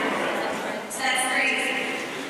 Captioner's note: laughter